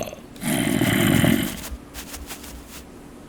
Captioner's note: sweeping intensifies